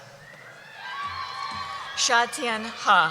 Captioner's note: cheering